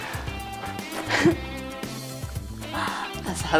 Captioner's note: Lacht erfreut